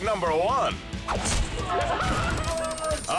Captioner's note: club whistles; countdown squeals